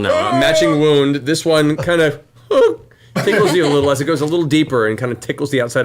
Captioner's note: yelps; yelps